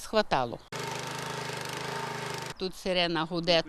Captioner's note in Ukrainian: Звук культиватору для орання землі